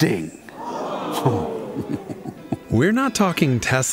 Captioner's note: audience gasps